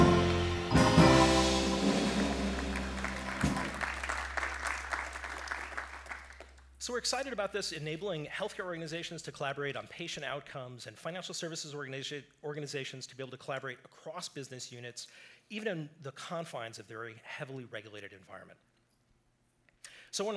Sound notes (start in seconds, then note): 0.0 jazz melody; 1.6 applause